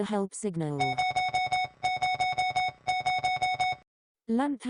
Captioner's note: loud beeping